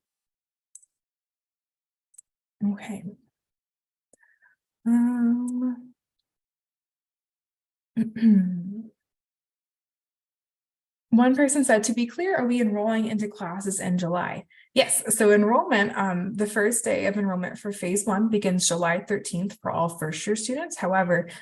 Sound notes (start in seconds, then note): 8.0 clears throat